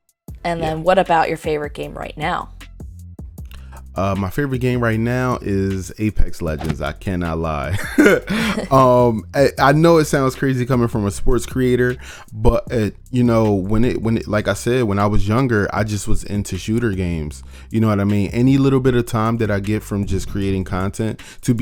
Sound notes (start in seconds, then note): 7.6 both laugh; 12.4 stammers